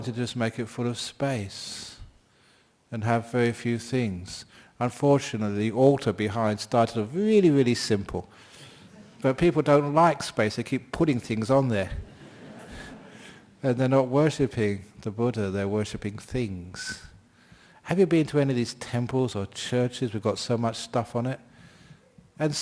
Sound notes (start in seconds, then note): 12.0 laughter